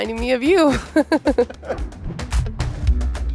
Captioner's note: laughter